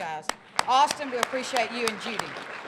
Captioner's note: applause